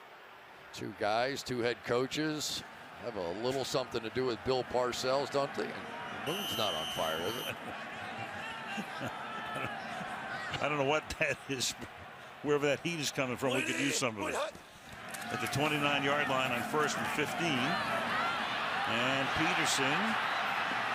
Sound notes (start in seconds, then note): 2.5 laughs